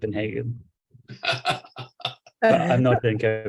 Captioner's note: laughter